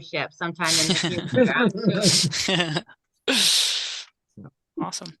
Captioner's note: both laughing